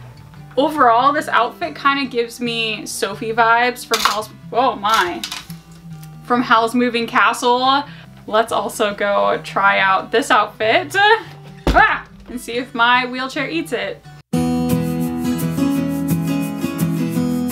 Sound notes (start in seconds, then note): 11.5 shoe thudding; 14.3 cheerful guitar music